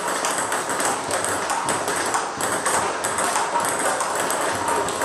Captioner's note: ball ping pong hitting continues